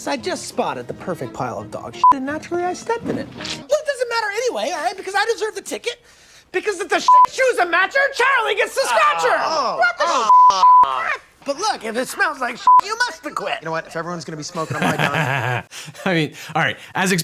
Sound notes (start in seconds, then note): 2.0 beep; 7.1 beep; 10.3 beep; 14.5 lawyer laughs